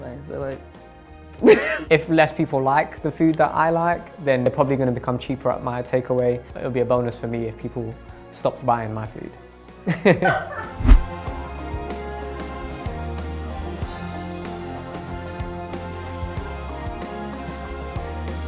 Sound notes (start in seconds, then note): 1.0 laughing; 9.9 laughing; 10.8 whoosh; 11.7 compelling music